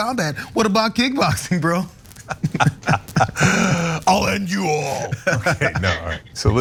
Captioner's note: laugh